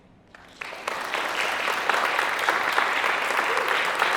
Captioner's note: attendees applauding